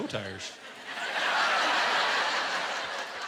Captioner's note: laughter